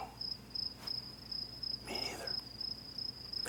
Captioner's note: whispering